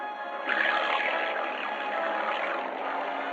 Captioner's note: engine rumbling